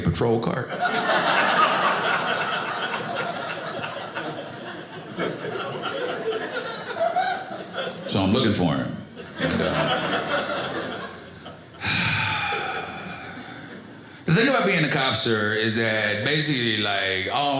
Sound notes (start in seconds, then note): 0.6 audience laughing